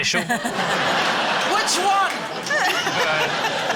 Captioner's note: laughter